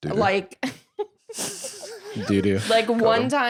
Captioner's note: laughs